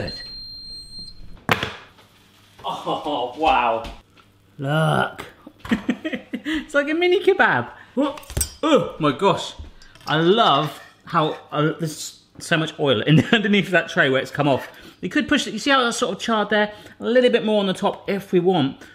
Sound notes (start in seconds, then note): 0.2 high-pitched beeping; 5.6 laughs; 7.9 groans; 8.2 clanging